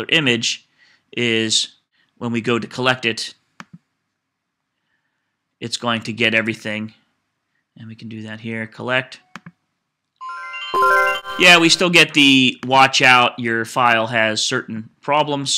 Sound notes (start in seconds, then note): 10.2 computer chimes